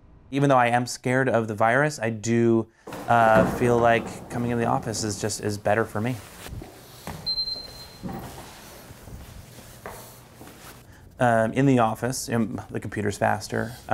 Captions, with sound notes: Even though I am scared of the virus, I do feel like coming to the office is just better for me. (keycard beeps) (footsteps) In the office, the computer's faster.